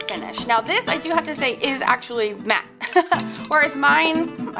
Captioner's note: laughs